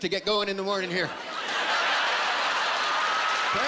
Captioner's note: cheering